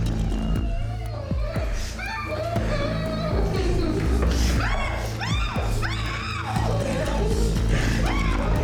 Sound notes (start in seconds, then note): 3.4 Mia groaning